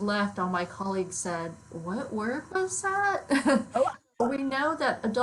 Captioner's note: laughs